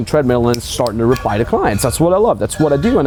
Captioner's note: fingers snapping